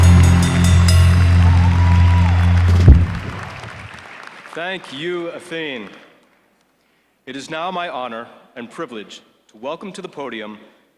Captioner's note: applause